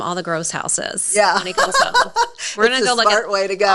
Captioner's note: laughing